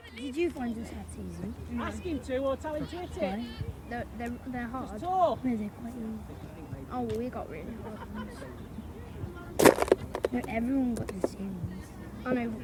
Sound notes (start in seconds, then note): 9.6 loud crunch